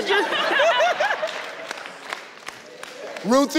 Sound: laughs

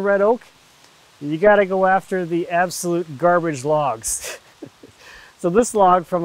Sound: chuckles

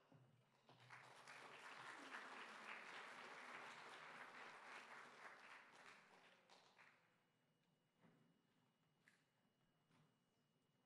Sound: applause

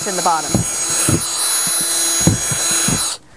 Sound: drill whirring

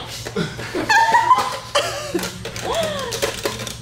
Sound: confused laughter

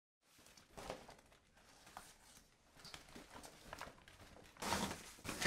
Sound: rustles through bags

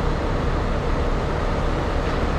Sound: motor rumbling

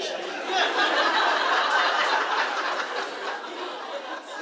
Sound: boisterous laughing

